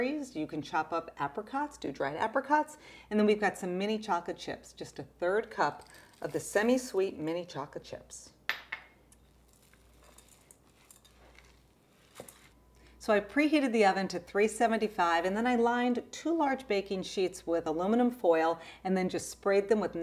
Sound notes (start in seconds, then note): 9.1 stirring sounds